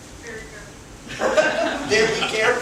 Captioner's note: laughter